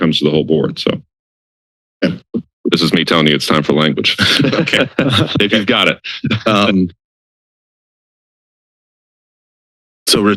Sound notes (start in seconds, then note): 4.0 laughter; 6.9 silence